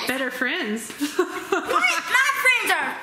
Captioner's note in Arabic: يضحك